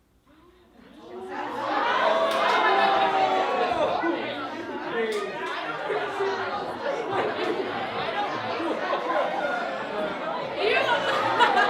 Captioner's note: everyone talking